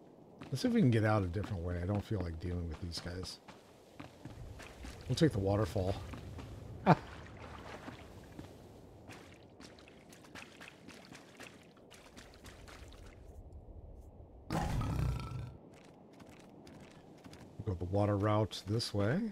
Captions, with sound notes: Let's see if we can get out a different way. I don't feel like dealing with these guys. We'll take the waterfall. [laughs] [gunshot] We'll go up a water route this way.